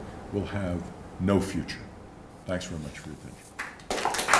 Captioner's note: applause